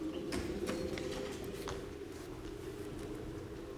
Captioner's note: wind howls